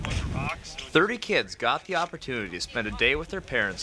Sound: voiceover

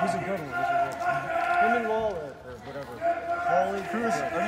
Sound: crowd muttering

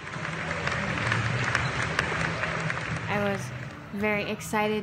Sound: people clapping

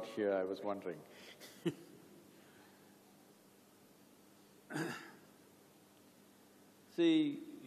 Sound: laughs

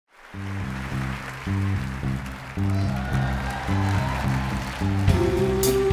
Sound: audience cheering and clapping

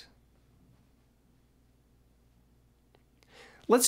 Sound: big pause

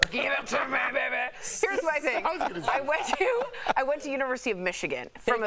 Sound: laughter

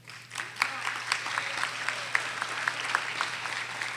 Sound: audience applauding

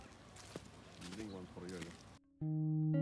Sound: bird

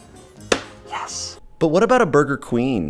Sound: claps hands; whispering

